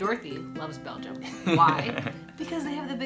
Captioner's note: laughs